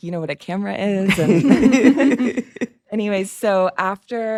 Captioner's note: group chuckles